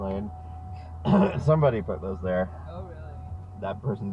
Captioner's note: coughcough